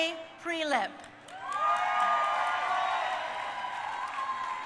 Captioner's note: crowd cheering